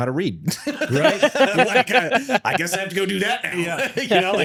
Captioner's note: both laughing